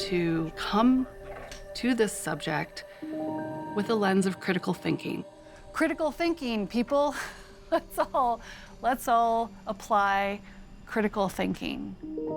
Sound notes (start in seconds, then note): 7.5 chuckles